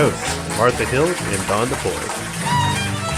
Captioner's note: crowd clapping